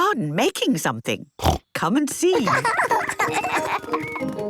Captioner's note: snorting; laughter